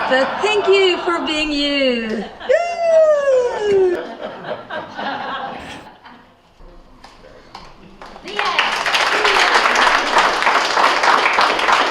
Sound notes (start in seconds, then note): 4.6 laughter; 7.9 applause